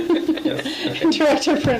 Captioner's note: laughs